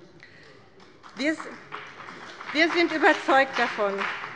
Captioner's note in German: Beifall bei dem BÜNDNIS 90/DIE GRÜNEN und der CDU